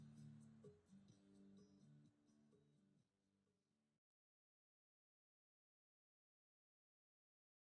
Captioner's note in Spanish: Sin audio